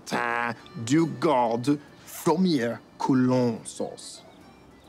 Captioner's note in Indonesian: berbicara bahasa prancis; berbicara bahasa prancis